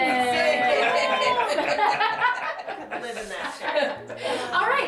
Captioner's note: laughing and talking over each other